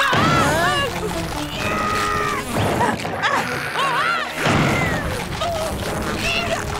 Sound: screaming

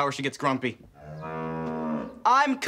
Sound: mooing

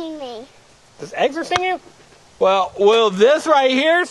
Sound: voiceover

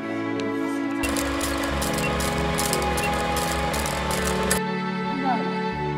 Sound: music continues; camera whirring

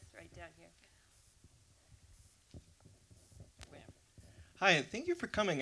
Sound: room noise. Audience member waiting for microphone

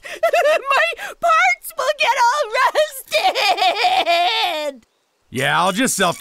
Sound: wailing

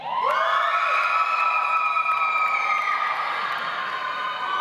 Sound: audience applauds

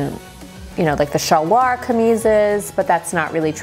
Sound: speaking in foreign language

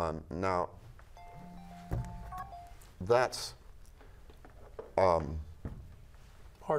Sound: phone ringing

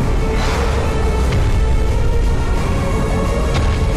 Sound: hooves thudding

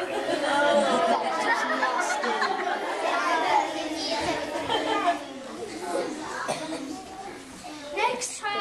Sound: laughter

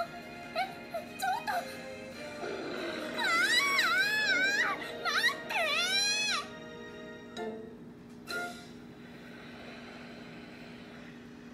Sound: screams

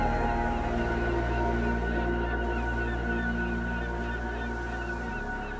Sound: birds caw

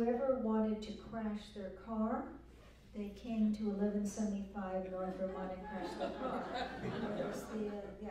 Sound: laughter

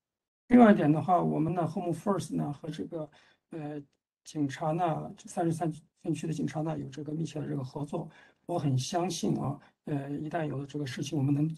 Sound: speaks in Mandarin

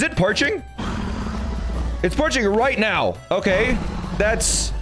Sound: dragon roaring

